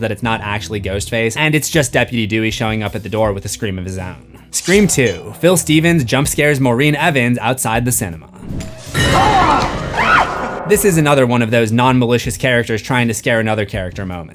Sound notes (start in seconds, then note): 9.0 screams